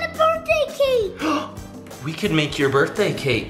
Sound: gasps

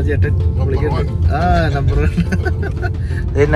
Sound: laughter

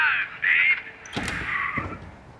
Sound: footsteps

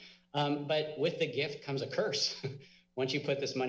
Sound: giggles

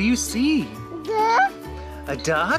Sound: baby babble

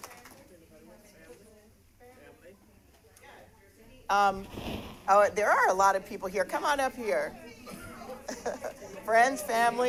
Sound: applause

